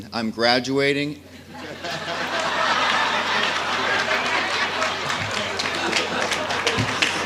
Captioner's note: laughter... Applause...Laughter